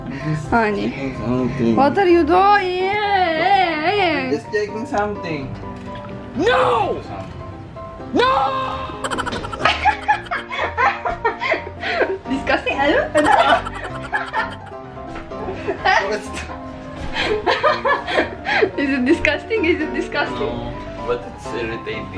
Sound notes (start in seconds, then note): 9.0 laughs